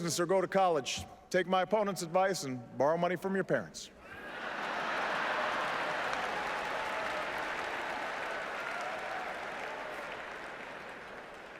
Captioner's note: laughter and applause